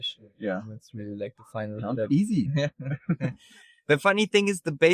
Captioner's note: chuckles